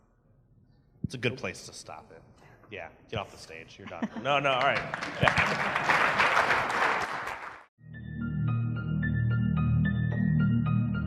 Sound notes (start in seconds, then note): 4.3 applause; 7.8 bright music